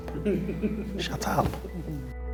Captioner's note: laughing